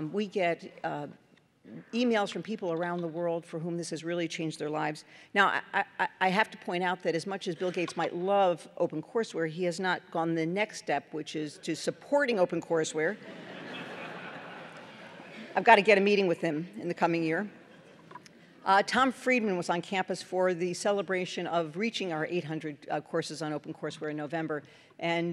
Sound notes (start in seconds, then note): 13.2 laughter